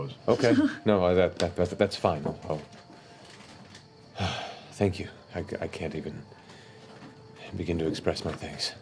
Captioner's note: sighs